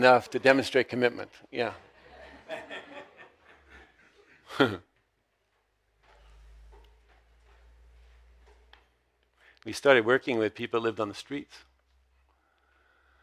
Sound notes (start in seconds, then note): 1.7 audience laughs; 4.4 laughs